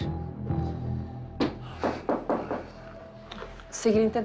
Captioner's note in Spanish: Toques en la puerta